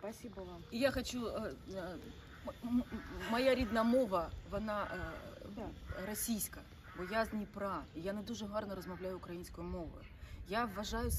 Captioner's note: switches into Ukrainian